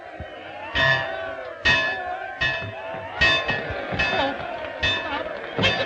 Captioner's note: bell clanging